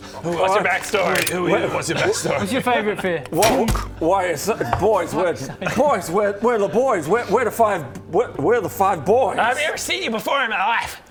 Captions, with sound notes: What's your backstory? Who are you and what's your backstory? What's your favourite fear? *thunk!* Why it's boys, we're boys we're the boys we're the five we're the five boys I've never seen you before in my life